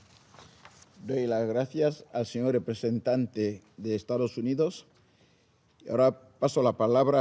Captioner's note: in Spanish